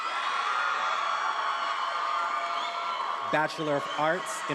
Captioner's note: attendees applauding and cheering